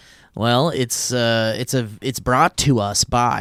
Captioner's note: none